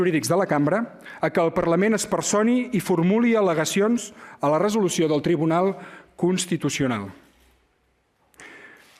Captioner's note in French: espagnol